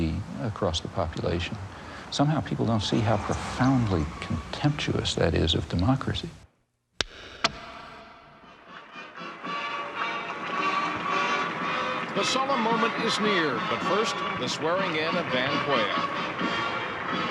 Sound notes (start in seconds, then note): 7.3 pencil snaps; 8.9 jubilant music; 16.5 audience applauding; 16.5 jubilant music